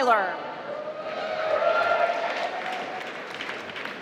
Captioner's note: applause